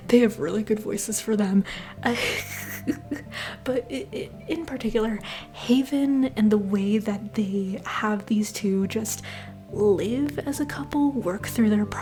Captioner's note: laughter